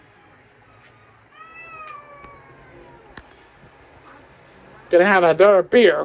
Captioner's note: meows